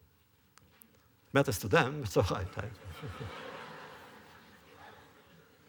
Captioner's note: laughter